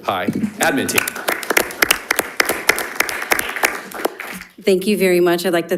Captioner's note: people applauding